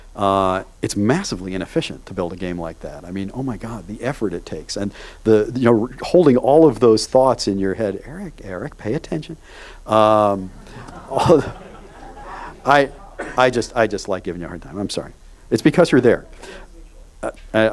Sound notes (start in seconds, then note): 10.1 audience laughs